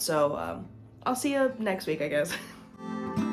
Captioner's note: laugh